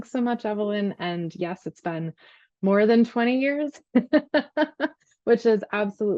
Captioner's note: laughs